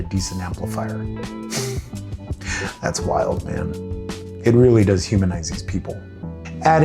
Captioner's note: scoffs